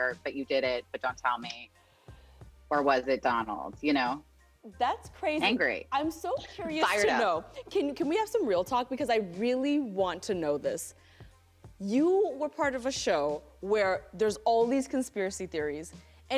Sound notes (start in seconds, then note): none